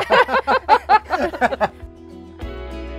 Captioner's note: everyone laughs; gentle guitar music